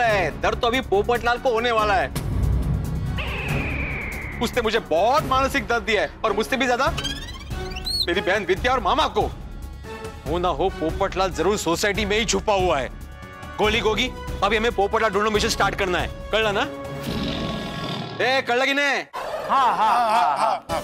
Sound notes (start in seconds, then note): 1.7 tense music plays; 17.0 tiger roaring